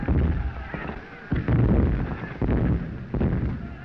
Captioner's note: explosions continue